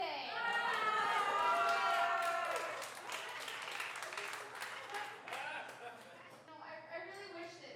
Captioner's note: laughing